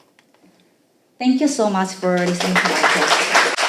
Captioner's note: applauding